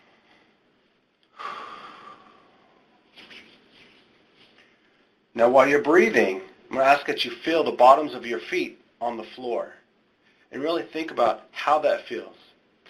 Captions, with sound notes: (deep breathing) Now while you're breathing I'm gonna ask that you feel the bottoms of your feet on the floor. And really think about how that feels.